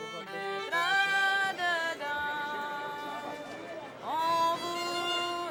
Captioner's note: crowd murmuring